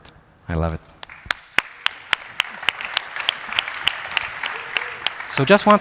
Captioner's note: applause